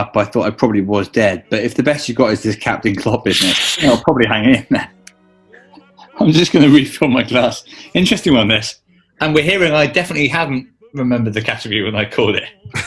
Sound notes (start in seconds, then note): 2.2 sniggers